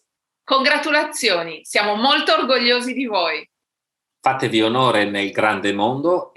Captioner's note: speaking italian